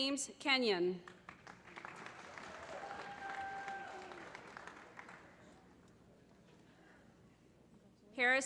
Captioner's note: applause